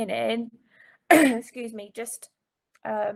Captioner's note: clearing throat